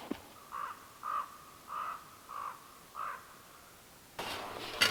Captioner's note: distant crow cawing